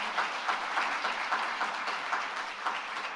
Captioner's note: applause